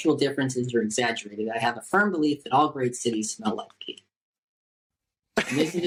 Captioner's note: laughter